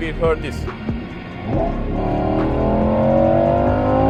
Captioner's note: car revving